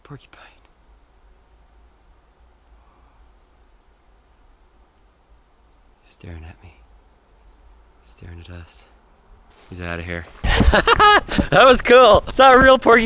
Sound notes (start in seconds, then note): 10.4 laughs